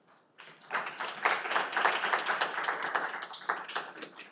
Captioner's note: audience applauding